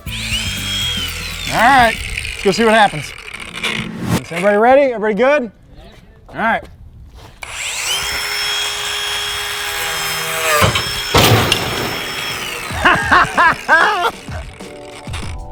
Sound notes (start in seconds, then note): 0.0 saw revs; 7.4 saw buzzing; 7.6 metallic clanking; 12.7 laughing